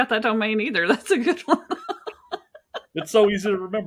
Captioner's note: laughing